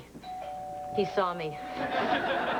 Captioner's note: doorbell rings